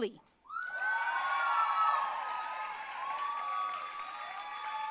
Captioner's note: audience cheering and applauding